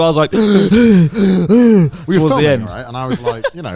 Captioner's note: gasping